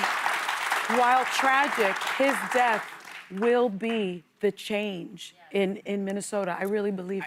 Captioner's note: applause